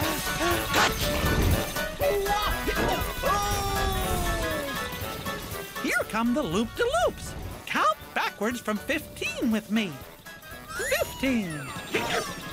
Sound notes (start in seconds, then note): 0.6 hiccups; 2.0 goofy yelling